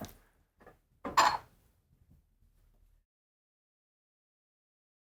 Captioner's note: cups clatters